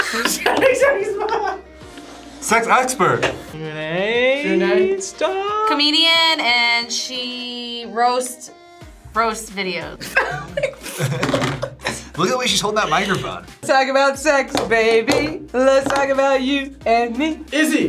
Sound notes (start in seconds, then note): 0.0 both laugh; 0.0 laughs; 10.0 laughs